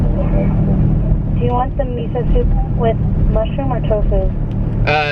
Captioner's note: woman on phone